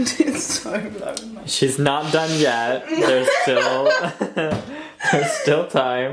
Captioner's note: laughs